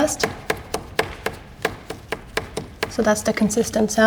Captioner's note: tapping on picture frame